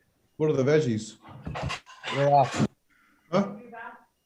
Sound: male Voice

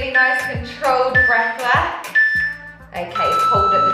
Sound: timer beeping

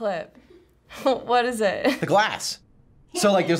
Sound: laughs

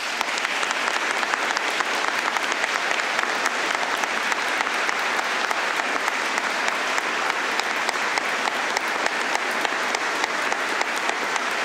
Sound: applause

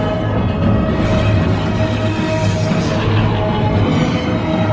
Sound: energy crackling

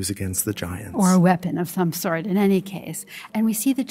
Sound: voiceover

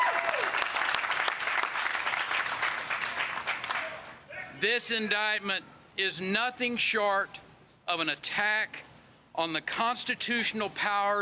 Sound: cheers and applause

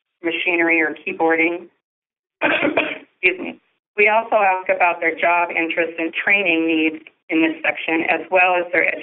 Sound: coughing

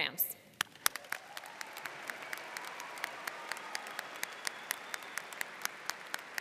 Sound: audience cheering and applauding

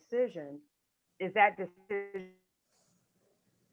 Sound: audio distorting

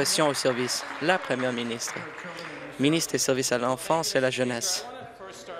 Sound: applause

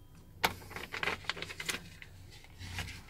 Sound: crinkling

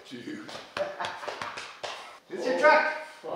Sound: laughter

